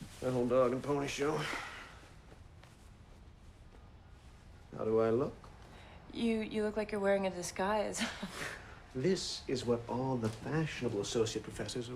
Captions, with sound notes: the whole dog and pony show. How do I look? - You, you look like you're wearing a disguise. (chuckles) - This is what all the fashionable associate professors